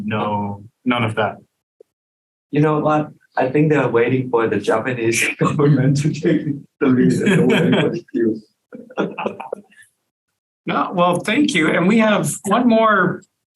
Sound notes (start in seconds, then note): 8.7 laughs